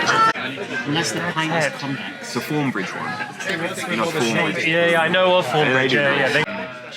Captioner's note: random pub conversation